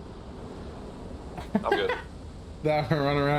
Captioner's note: laughs